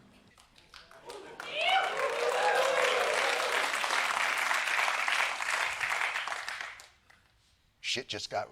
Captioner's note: applause